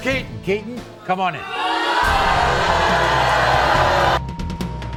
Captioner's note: audience boos